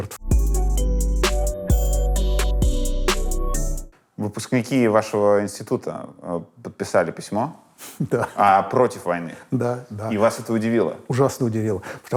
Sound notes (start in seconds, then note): 0.0 title theme; 8.0 laughs